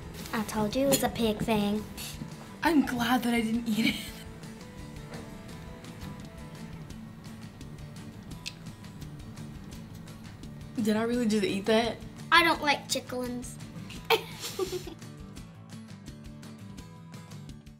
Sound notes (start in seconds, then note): 13.9 laughs; 14.5 guitar music